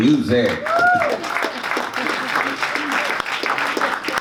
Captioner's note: audience claps